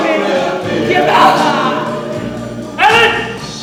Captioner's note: Alan cries